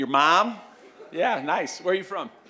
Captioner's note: laughter